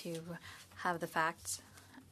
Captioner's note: speaking French